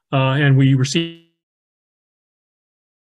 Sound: microphone fades

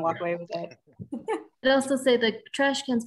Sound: speaker laughing

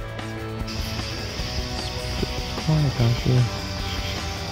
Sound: birds chirping

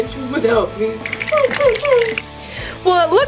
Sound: chattering and whining

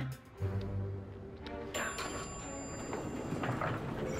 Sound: elevator bell dings

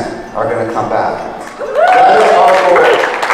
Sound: cheering

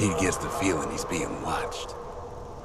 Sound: sexy whale noises

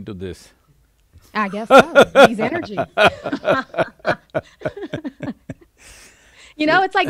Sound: both laugh

